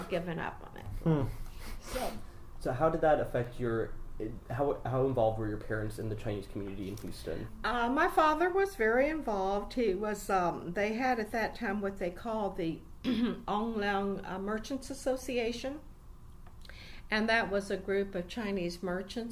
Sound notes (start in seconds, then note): 13.0 clears throat